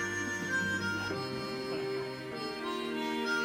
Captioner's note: audience chuckles quietly